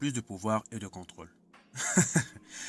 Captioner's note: laughing